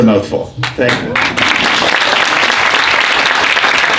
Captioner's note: applause